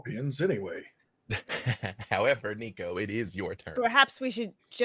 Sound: laughs

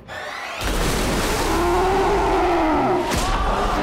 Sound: splashing; roaring

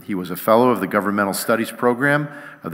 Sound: none

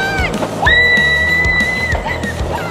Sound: screams

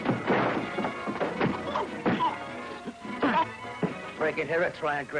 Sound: punches landing

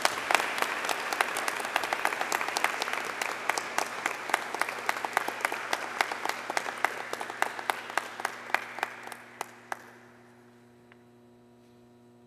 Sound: applause

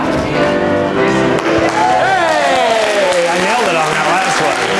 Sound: crowd cheers

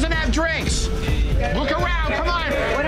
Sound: patrons cheering

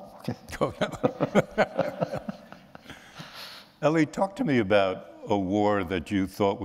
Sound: laughter

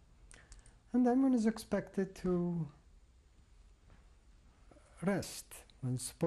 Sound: pauses for 3 seconds

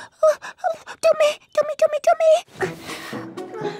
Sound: gasps; panics

